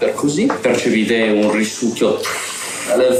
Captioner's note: suction noise